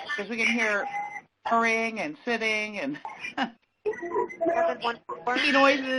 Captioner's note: chuckles